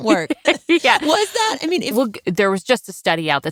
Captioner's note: laughs